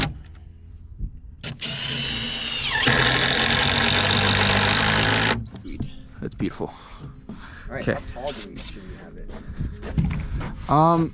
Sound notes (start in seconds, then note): 1.4 drill whirring